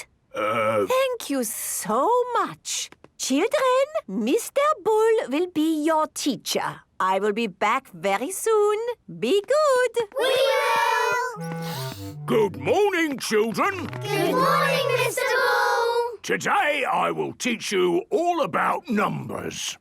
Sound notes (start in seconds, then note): 11.5 sniffs